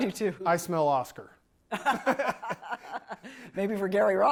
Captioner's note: laughs